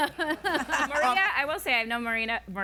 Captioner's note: laughing